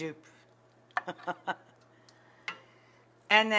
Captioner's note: Rachael laughs